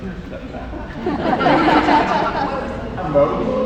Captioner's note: laughter